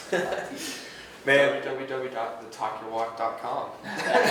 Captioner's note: laughing; laughing